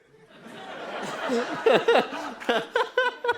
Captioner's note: laughter